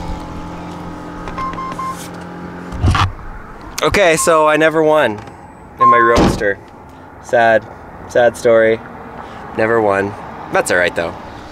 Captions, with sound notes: (beeping) Okay so I never won in my Roadster. Sad, sad story, never won, that's all right though.